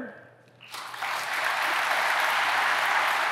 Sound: applause

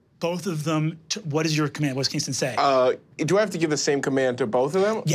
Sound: none

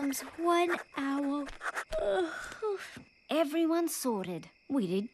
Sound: yawning

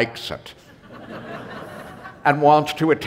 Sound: laughter

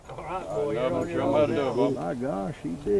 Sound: men chatter

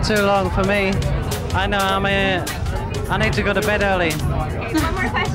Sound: laughs

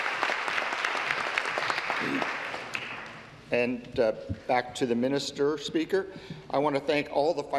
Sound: applause

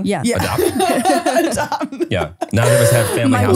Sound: laughing

